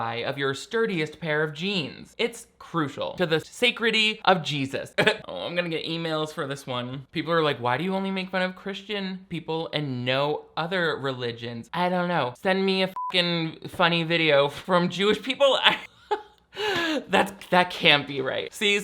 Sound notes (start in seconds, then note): 12.9 beep